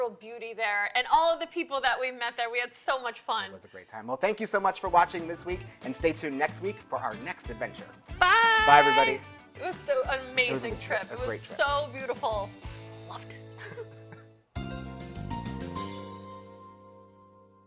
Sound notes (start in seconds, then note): 9.4 upbeat bright music; 13.5 laughter; 14.6 upbeat jingle